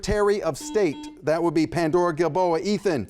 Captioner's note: buzzer buzzes